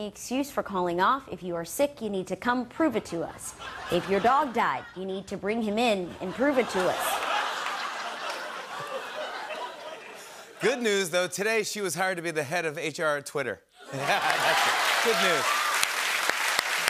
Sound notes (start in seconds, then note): 6.1 laughter; 13.9 laughter and applause